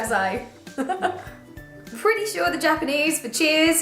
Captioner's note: laughter